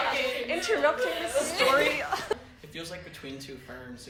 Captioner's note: laughs